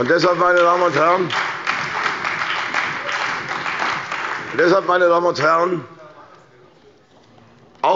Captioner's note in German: Beifall bei der CDU, dem BÜNDNIS 90/DIE GRÜNEN und der SPD